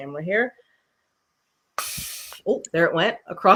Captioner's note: blowing in the straw